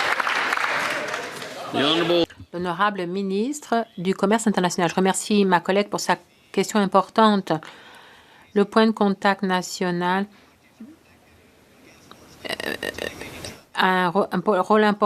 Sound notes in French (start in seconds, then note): 6.6 voix de l'interprète